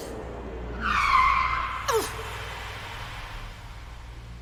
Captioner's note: brakes screech